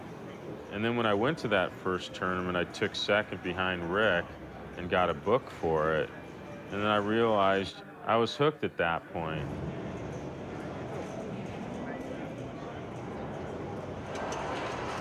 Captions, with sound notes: and then when I went to that first tournament I took second behind Rick and got a book for it. And then I realized I was hooked at that point. [pinball tournament ambience]